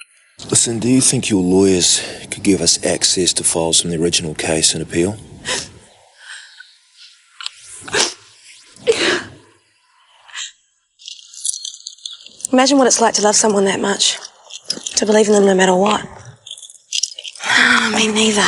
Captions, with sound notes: - So, do you think your lawyers could give us access to files from the original case and appeal? (sniffing) - Yeah. - Imagine what it's like to love someone that much, to believe in them no matter what, (sighs) me neither.